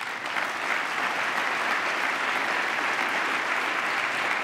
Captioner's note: applause